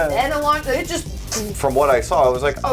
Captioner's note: vroom